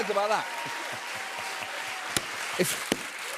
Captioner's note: cheers and applause